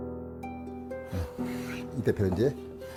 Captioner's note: sound of planing